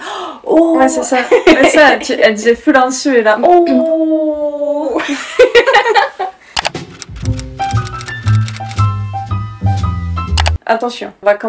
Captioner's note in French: rires